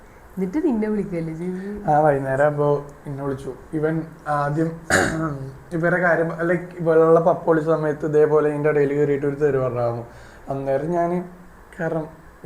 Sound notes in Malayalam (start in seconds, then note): 4.8 തൊണ്ട ശരിയാക്കുന്നു